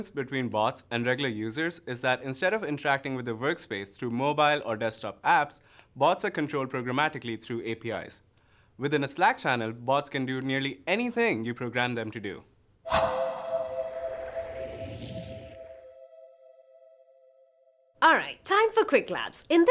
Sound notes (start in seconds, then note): 12.8 whoosh